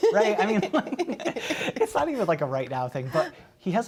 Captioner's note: laughter